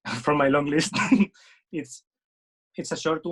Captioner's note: laughing